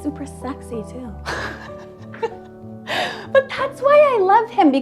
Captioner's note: laughs